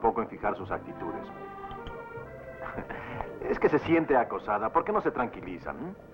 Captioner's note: chuckles